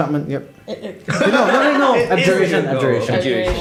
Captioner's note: laughter